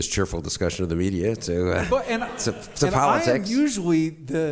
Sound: stutters

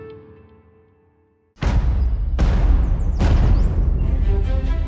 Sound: loud booming

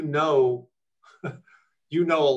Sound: chuckles

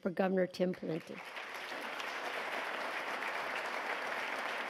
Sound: applause

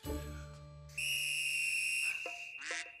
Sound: whistle blowing

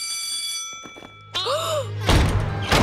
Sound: bell ringing; gasps

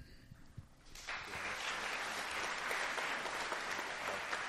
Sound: applause

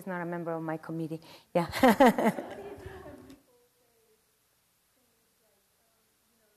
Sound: laugh

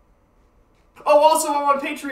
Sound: yelling from afar

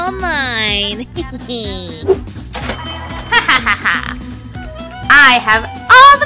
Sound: Romeo laughing sarcastically

